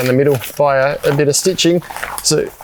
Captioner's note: fingers scrabbling